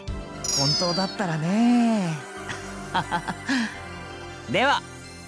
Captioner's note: awkward laugh